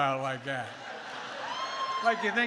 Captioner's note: laughter